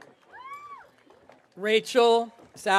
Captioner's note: audience cheering